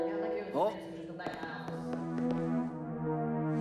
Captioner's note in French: Conversation en anglais